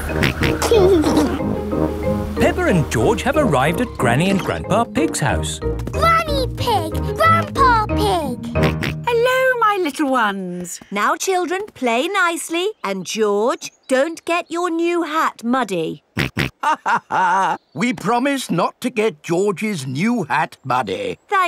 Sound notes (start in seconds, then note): 0.6 snorts and giggles; 8.5 snorts; 16.3 snorts; 16.6 chuckles